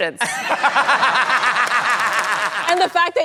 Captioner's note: laughs; applause